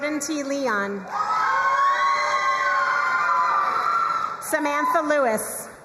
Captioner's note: crowd cheering and applauding